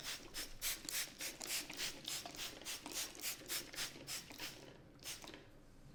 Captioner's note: water sprizting